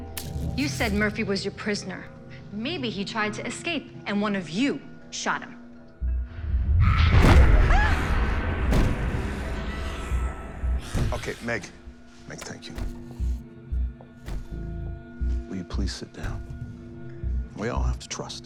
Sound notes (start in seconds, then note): 6.3 snarling; 6.9 yells